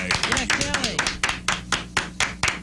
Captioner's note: clapping